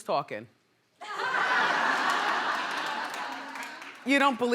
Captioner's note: laughing